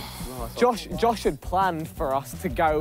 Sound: sighing

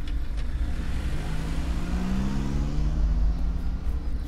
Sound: car revs

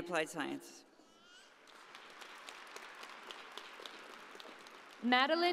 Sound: audience applauding

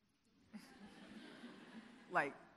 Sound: audience laughing

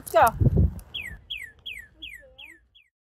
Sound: cardinal chirping

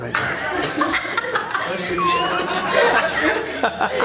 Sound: laughs

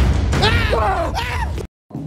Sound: Javier Screams in Fear

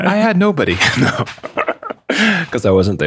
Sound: laughter

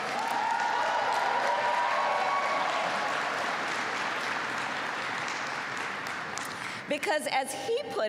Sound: applause

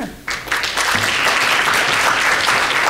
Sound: applause

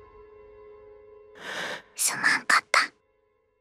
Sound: inhales

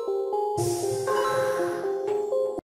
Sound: coin dinging

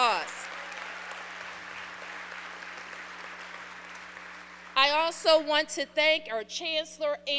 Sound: applause

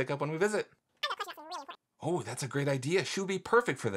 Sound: speaking speedily

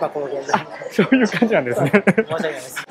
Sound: SPEAKS IN JAPANESE : I see; chuckles

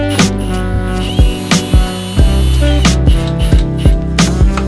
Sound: drill motor whirring

